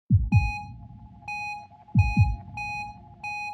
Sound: heart monitor beeping

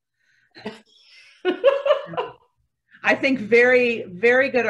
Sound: laughing

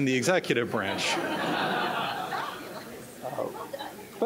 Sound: laughter

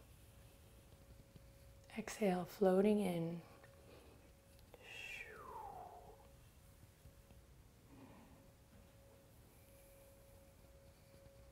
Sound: breath

